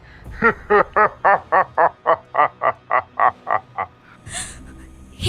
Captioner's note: laughing